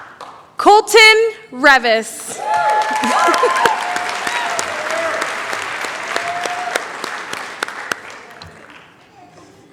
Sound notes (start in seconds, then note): 2.3 cheering, applause